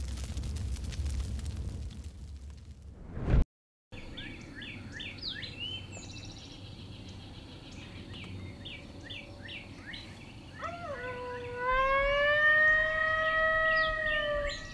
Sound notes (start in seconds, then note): 4.3 birds chirping; 10.6 deer call